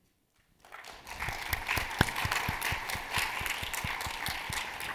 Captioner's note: audience applauding